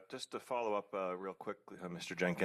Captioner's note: speaking French